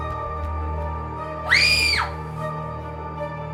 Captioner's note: scream